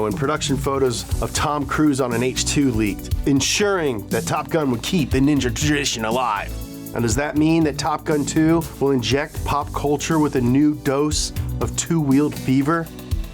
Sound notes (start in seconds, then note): none